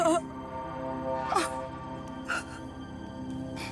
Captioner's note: sobbing